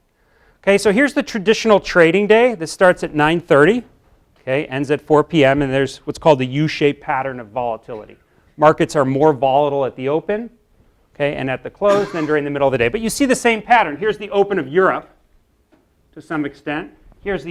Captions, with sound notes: Here's the traditional trading day. This starts at nine 30, ends at four p m, and there's what's called the u shaped pattern of volatility. Markets are more volatile at the open, and at the close [COUGH] and during the middle of the day. But you see the same pattern. Here's the open of Europe, to some extent.